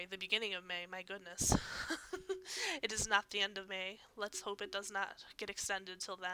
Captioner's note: laughs